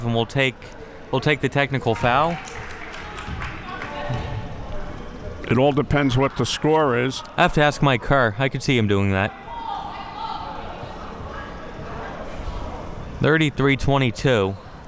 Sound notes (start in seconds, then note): 1.9 spectators applauding